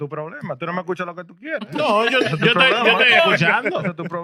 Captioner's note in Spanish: Hablando en idioma extranjero